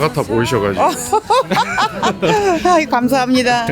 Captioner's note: laughs